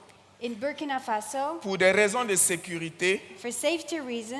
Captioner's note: continues in French; continues in French